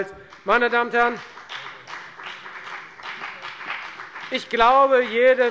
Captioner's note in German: Beifall bei der FDP